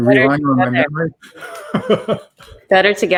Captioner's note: laughing